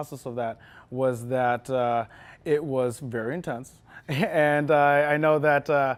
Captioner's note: chuckles